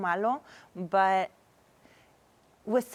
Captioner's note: none